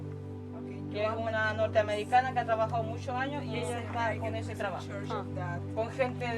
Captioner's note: speakers speaking in foreign language